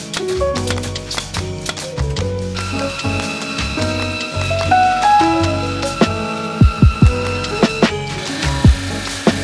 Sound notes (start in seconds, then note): 0.3 nail gun pounding; 2.5 saw grinding